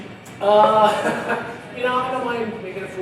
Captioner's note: both chuckling